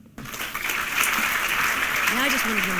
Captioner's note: applause